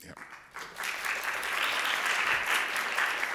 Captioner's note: applause